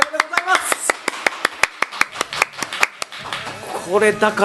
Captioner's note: applause